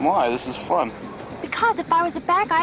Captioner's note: none